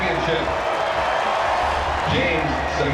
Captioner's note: crowd cheering